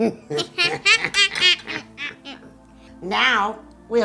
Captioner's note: both laughing